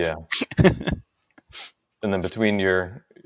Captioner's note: laughs